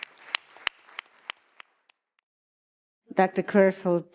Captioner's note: audience applauding